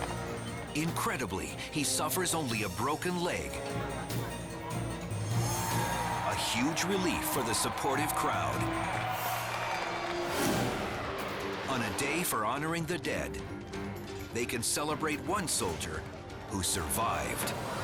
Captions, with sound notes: Incredibly, he suffers only a broken leg, a huge relief for the supportive crowd. (crowd cheers) On a day for honoring the dead, they can celebrate one soldier who survived.